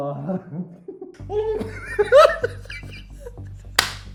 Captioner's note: hysteric laughing